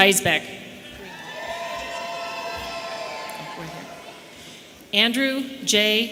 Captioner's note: audience cheering